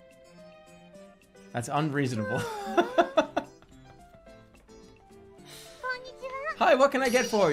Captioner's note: laughing